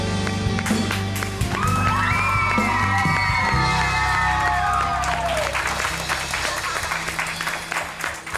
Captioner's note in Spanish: Ovación